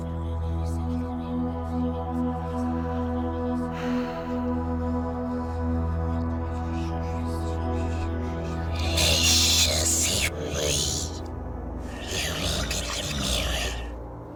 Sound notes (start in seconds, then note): 3.7 reluctant sigh; 9.0 ghost noises